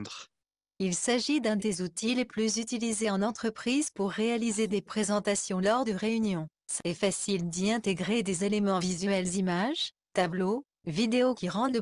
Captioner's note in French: synthèse vocale